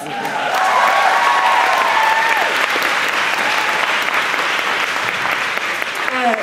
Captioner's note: applause